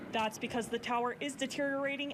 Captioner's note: nat of airplane taking off